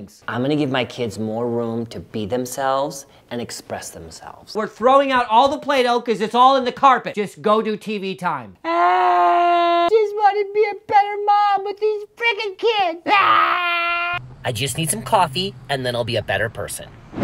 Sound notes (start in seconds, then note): 8.6 cries; 13.0 cries